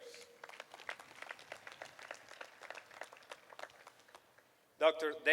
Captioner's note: applause